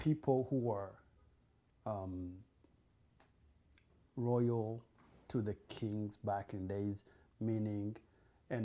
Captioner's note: pauses for 3 seconds